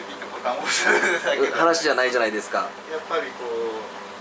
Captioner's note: laughs